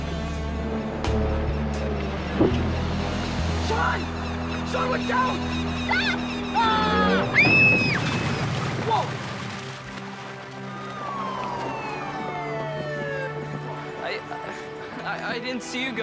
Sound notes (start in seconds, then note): 6.5 screams; 10.4 police siren